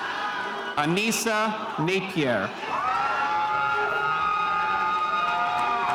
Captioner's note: spectators cheering